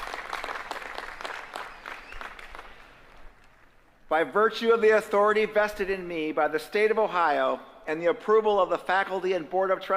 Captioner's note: applause